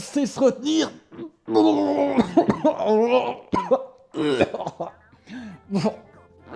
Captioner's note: vomiting